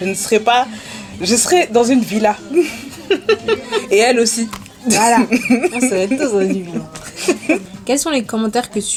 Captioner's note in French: rires